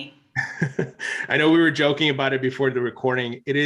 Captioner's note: chuckles